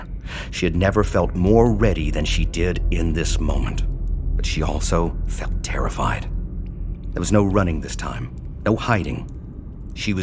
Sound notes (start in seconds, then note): none